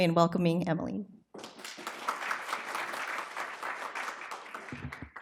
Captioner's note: applause